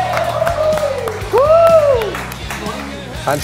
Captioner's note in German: Jubel